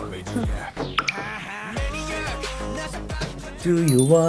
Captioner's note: knocking before anything weird happens